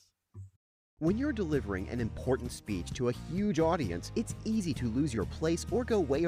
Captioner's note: voiceover